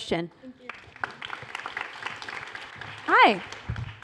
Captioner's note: applause